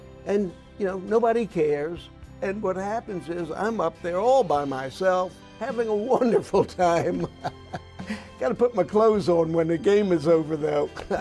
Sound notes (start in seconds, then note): 7.0 laughing